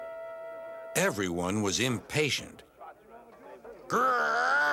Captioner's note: people grumbling